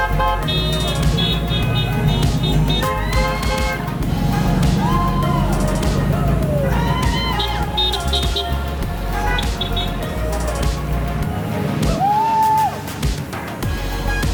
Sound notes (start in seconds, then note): 0.0 horns honking; 9.1 horns honking